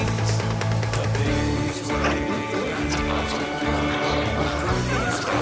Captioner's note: glowzies growling